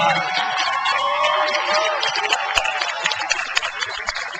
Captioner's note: crowd applauds